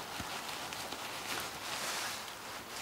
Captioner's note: rusting